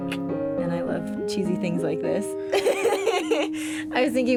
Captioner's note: laughs